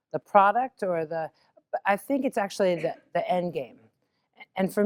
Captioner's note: cough